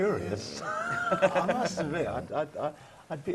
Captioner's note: laugh